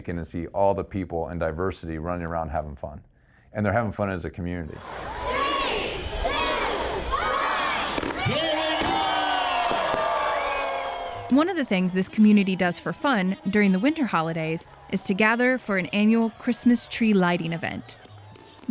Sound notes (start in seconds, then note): 5.9 crowd; 8.5 cheering